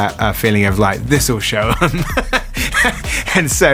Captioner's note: laughs